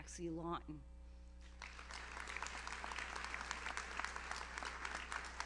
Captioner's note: audience applauds